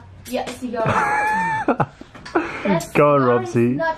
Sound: laughs

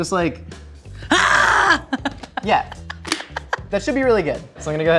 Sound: laughing; yelling

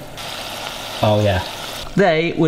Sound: oil sizzling

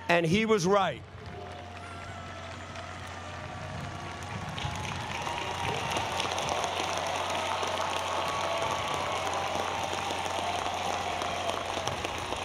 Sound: applause

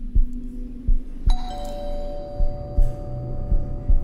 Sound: bell rings again

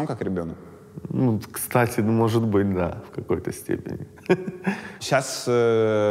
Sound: chuckles

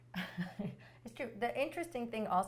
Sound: laughs

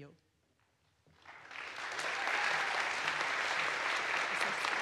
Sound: audience applauds

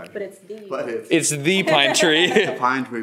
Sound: laughs

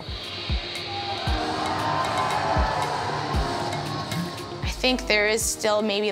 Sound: crowd cheers

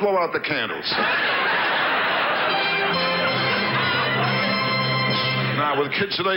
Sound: audience laughs; orchestra riffs

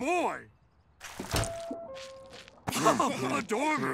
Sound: doorbell dings

